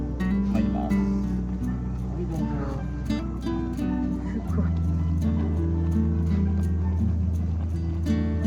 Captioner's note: laughs